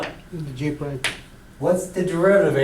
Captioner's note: voiceover